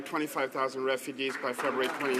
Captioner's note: some applause